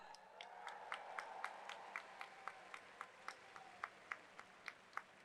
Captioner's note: audience applauds